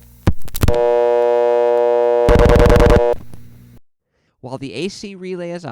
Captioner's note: buzz starts when AC relay operates; buzz stops when AC relay releases